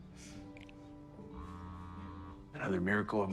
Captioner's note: phone vibrating